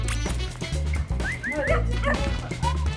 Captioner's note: squeaky toy squeaks; whistling